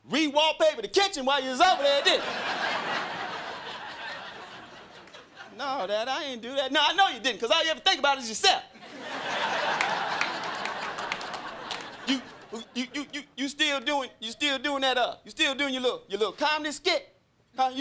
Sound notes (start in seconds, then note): 1.7 crowd laughing; 8.8 crowd laughing